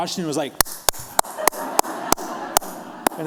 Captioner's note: clapping